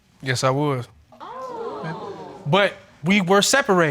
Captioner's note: audience exclaims